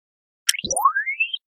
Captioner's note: ball sfx